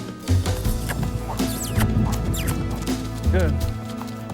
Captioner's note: smacking lips